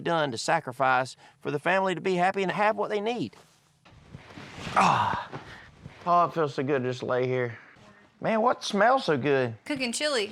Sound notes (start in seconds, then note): 4.6 sighs